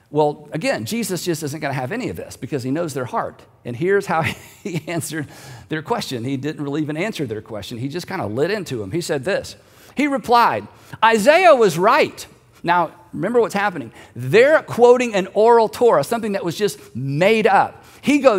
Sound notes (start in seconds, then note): 4.2 giggling